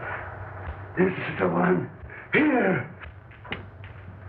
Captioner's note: whispering